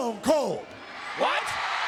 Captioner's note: audience cheering